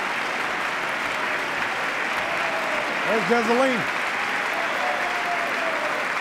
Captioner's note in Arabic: تصفيق